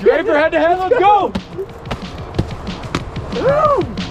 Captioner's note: helmet bump; fist bumps